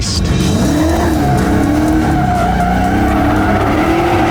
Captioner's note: engine revving